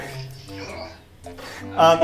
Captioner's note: groans